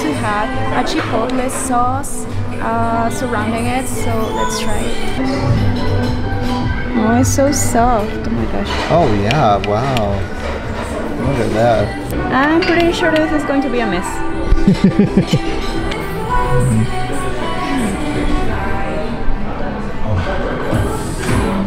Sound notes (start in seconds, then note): 14.5 laughs; 17.9 diners talking